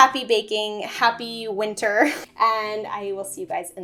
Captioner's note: laughs